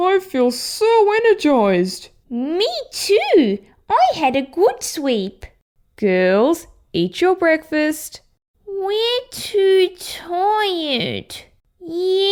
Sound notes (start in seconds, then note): none